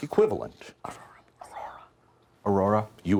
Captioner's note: students whispering